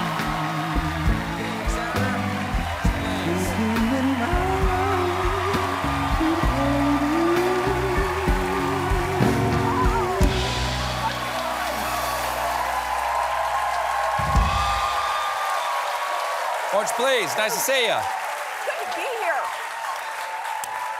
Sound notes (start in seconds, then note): 5.9 cheers and applause